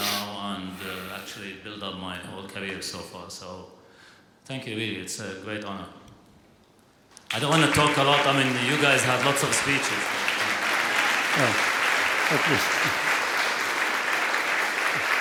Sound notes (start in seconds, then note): 10.2 applause